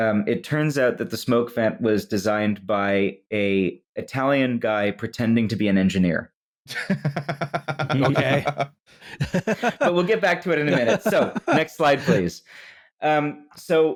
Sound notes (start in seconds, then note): 6.7 laughs; 6.7 joins the laughing